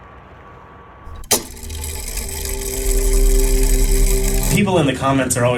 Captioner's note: mechanism whirring